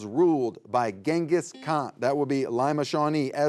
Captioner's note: buzzer beeps